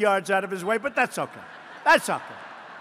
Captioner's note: laughter